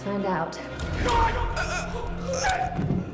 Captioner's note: gasps